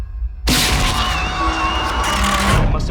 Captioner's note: screeching; tape ripping